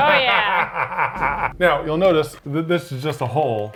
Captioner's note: laughs